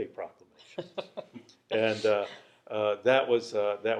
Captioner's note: chuckles